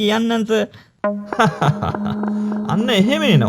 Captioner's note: laughs